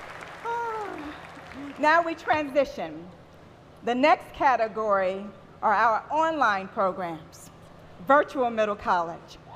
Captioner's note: applause